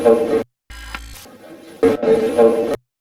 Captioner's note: static playback transmitting; static fizzing